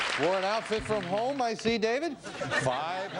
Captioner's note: audience laughs